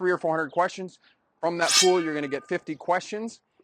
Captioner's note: metal resonates